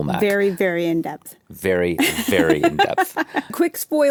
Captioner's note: laughs